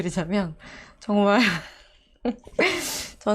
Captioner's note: laughing